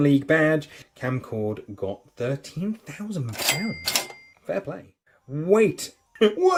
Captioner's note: ka-ching